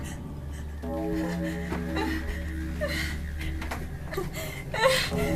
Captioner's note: church bells tolling; Kate whimpering